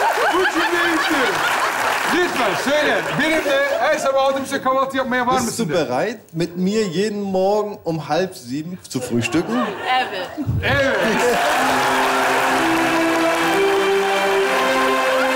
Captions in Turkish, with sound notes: Bu cümleyi istiyorum. Lütfen söyle. "Benimle her sabah saat altı buçukta kahvaltı yapmaya var mısın?" de. [Almanca konuşmalar] -Evet. -Evet.